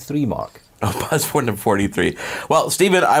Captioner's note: chuckling